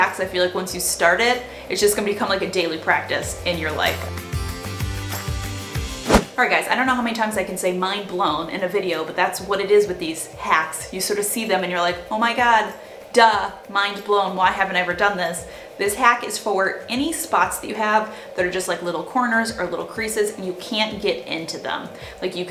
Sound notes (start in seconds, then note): 4.1 bright music; 4.1 whooshing